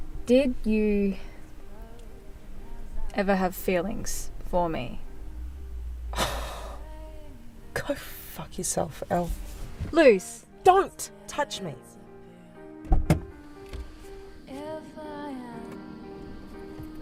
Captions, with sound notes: Did you...ever have feelings for me? (scoffs) Go fuck yourself, El. Luce— Don't touch me!